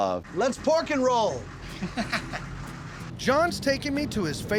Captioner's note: laughter